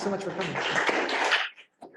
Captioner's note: audience applauding